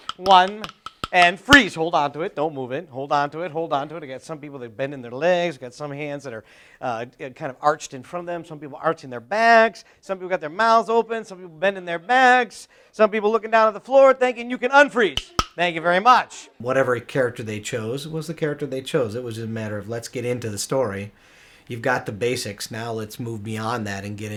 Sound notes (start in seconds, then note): 15.1 claps sticks together